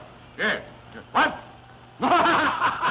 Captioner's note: laughing